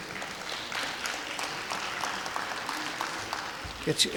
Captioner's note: clapping